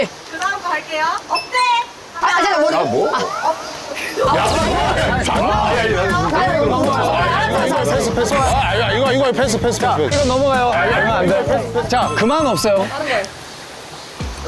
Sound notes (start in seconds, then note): 4.0 jeers pouring in